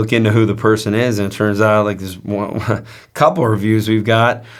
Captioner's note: laughs